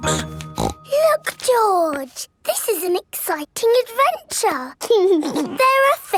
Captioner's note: snorts; giggles